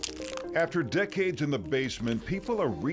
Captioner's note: paper crinkles